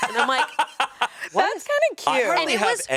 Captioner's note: laughs